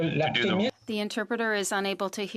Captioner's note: speaking in French